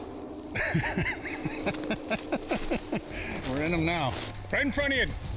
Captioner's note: laughs